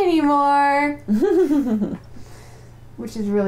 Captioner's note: laughter